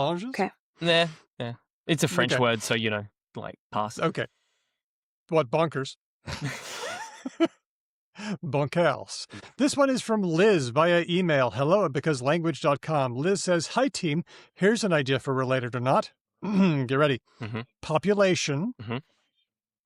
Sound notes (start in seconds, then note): 6.2 laughter; 7.3 french accent